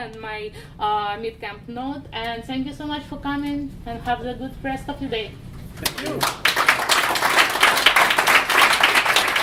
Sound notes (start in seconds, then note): 5.8 audience applauding